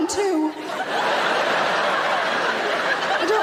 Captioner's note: audience laughing